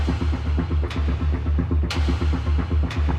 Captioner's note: whispers